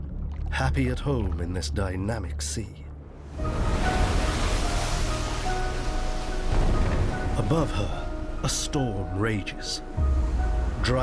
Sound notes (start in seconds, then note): 3.1 waves crashing; 3.6 light dramatic music